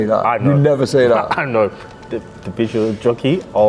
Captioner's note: laughs